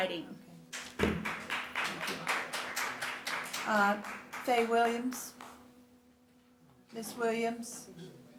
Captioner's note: applause